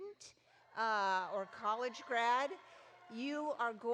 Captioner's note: audience cheering